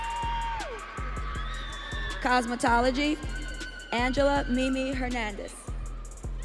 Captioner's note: audience cheering